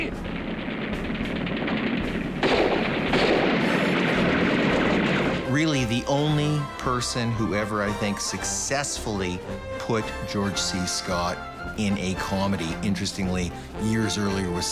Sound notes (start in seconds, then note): 0.0 guns firing rapidly; 1.9 fires pistol; 3.1 guns firing rapidly